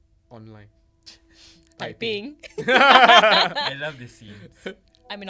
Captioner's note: unison laughter